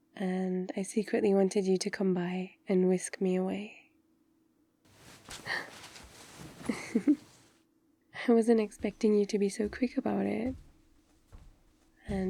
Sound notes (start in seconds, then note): 5.2 laughs; 5.3 gasp; 8.4 footsteps